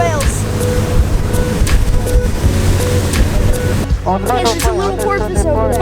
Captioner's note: water splashing